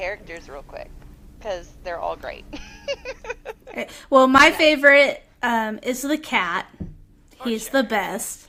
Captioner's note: laughter